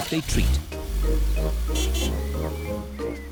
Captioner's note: horn honks